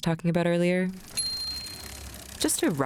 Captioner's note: bicycle wheel spinning